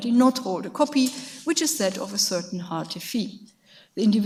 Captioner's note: speaks in a foreign language